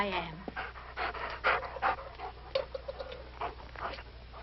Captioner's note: dogs panting